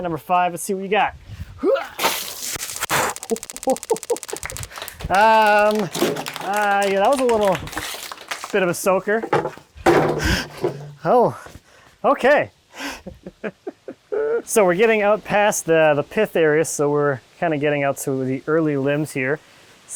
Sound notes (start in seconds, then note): 2.3 water splashing; 2.9 laughing; 3.2 counter ticking; 3.2 audience applauding; 10.0 bucket clanging; 13.7 laughing